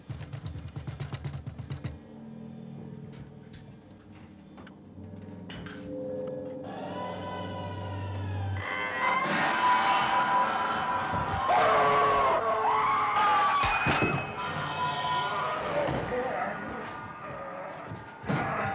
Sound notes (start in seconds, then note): 0.0 knocking; 11.4 Jerry screams; 11.6 man yells